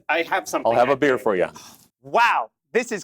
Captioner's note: gasp